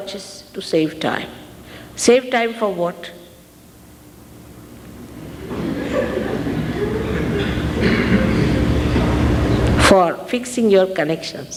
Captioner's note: audience laughs